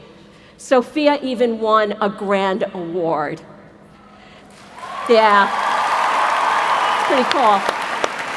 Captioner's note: cheers